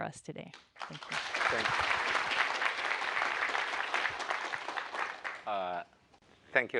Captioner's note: applause